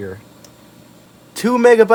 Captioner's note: click